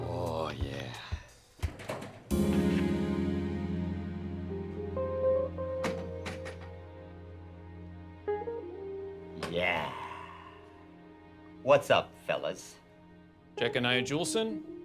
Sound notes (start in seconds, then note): 1.7 gentle stirring music; 1.7 door clicks open